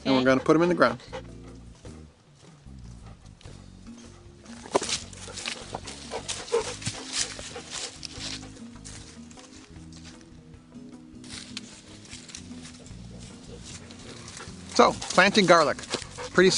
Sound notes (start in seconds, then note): 5.0 dogs breathing heavily; 9.1 mellow jazz music